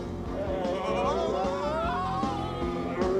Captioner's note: both screaming